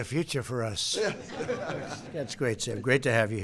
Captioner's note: laughter